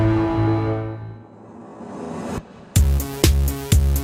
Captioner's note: logo swooshing; funky music